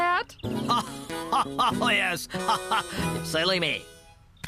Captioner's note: giggling; laughing